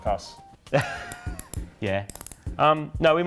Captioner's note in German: lachend